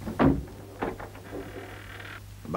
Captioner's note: door creaks